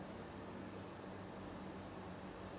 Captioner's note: none